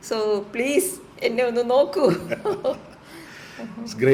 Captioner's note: laughter